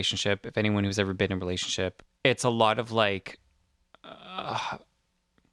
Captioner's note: groan